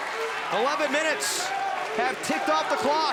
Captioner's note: crowd cheering